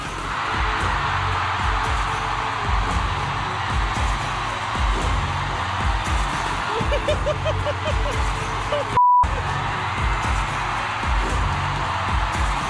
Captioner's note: uproar, rounds of applause